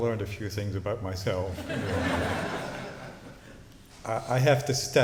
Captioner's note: laughter